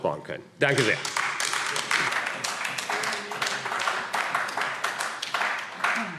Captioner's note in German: Beifall AfD - Zuruf: Schöne Rede!